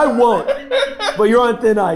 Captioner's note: laughing